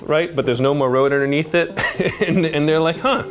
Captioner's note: laughs